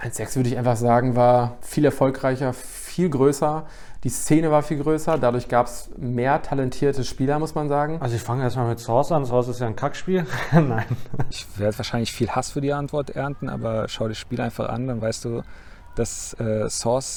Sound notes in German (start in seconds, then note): 10.1 lacht